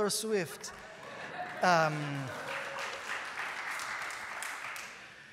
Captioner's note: applause